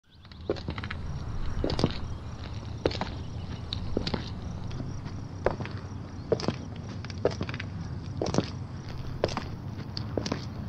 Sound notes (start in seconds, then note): 0.3 pasos; 4.5 pájaros cantando